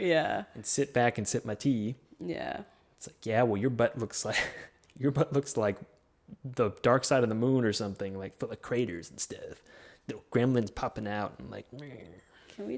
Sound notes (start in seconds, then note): 4.3 laughs